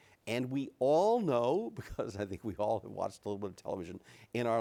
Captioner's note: chuckles